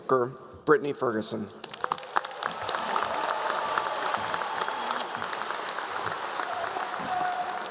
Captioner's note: audience Cheering